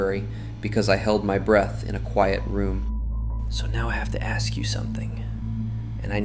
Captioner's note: whispers